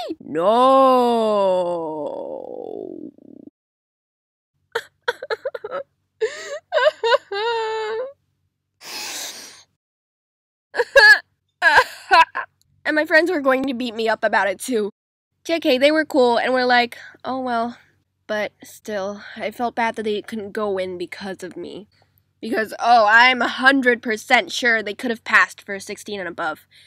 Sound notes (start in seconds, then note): 4.6 cry; 8.8 sniff